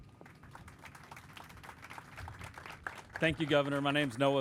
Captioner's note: crowd applauding